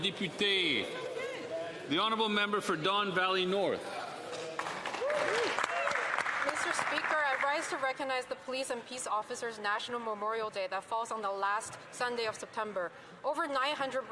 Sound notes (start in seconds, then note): 0.2 some Applause; 9.3 some Applause